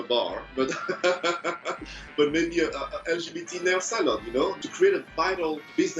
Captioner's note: laughing